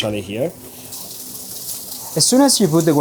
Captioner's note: food sizzling